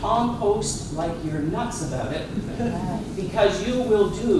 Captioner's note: laughter